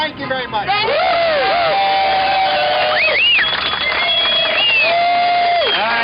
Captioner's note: cheering and applause